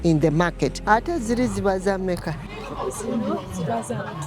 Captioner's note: speaking in Luganda